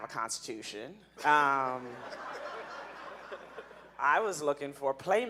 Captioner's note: audience laughing